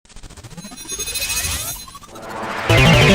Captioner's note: laser beams; upbeat music